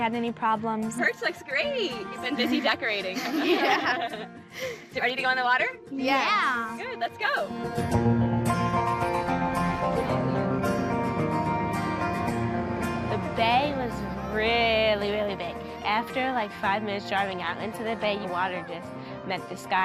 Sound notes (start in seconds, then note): 6.0 all laugh